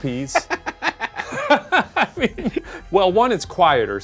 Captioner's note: pair laughs